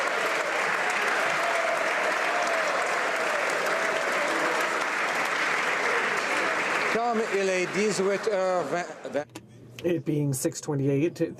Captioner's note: applause